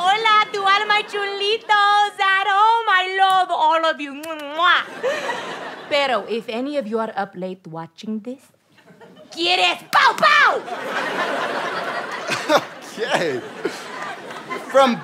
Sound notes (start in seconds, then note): 4.8 audience laughter; 10.6 audience laughter; 12.4 laughs nervously